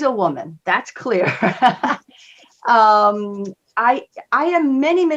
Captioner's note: laughs